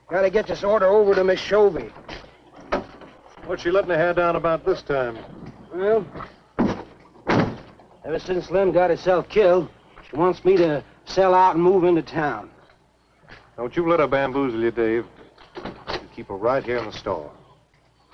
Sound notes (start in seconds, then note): 7.2 trunk closing